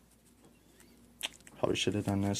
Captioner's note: sucks teeth